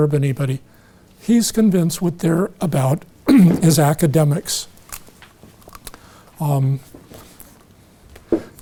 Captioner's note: a pile of paper falls on the floor